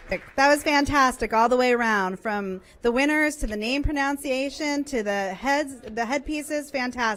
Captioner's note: applause